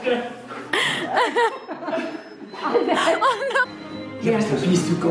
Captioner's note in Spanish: La risa